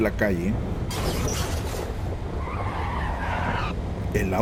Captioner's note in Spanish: Sonido de golpe seguido de llantas frenando